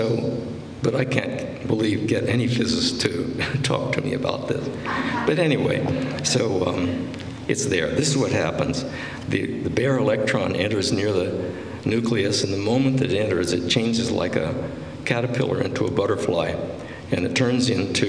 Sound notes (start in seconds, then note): 4.8 laughter